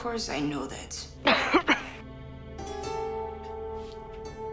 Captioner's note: Caroline coughing